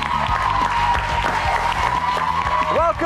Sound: cheers

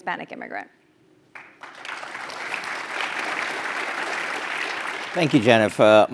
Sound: applause

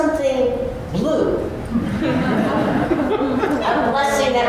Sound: laughter

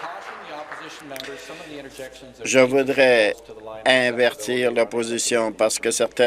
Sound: some Applause

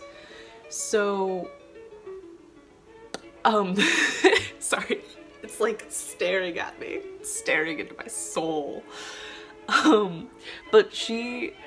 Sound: scared laugh

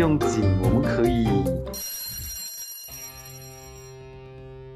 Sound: telefon ringtone

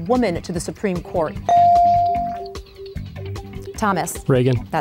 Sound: ding

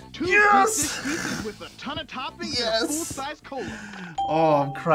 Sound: laughs

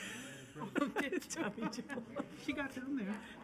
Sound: laughter

